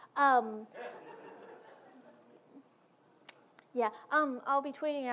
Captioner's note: audience laughing